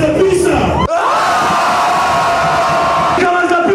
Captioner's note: screaming